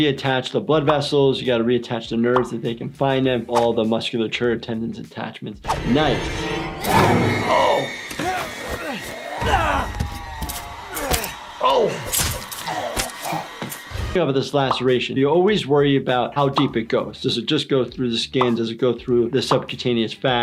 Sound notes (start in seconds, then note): 8.0 people grunting